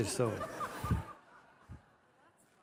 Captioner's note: laughter from the audience